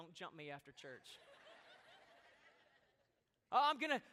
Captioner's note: laughter